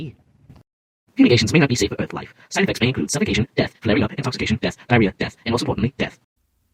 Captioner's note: really sped up voice